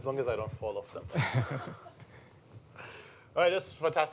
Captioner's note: chuckling